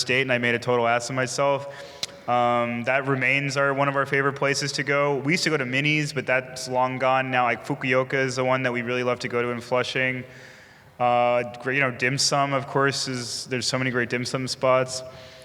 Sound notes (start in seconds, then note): none